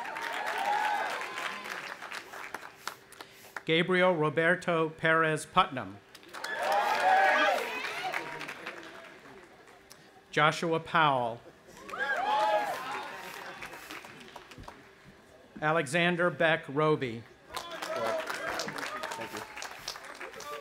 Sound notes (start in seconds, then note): 0.0 audience applauding and cheering; 6.2 audience applauding and cheering; 11.8 audience applauding and cheering; 17.5 cheering